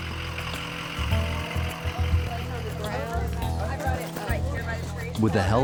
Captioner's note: people chatter